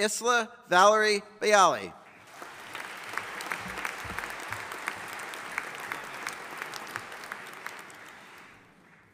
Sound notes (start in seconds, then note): 2.1 audience applauding